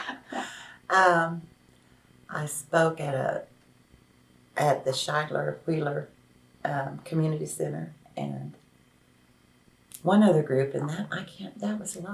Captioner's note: laughs